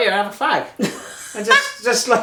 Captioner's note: mum laughing